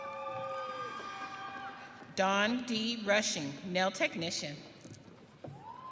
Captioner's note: audience cheering